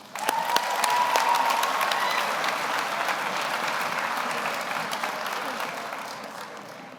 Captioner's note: audience applauds; audience cheers